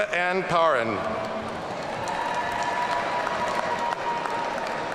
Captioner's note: audience cheering